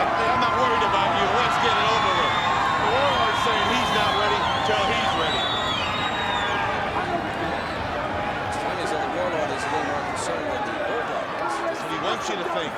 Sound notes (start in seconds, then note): 3.4 audience cheers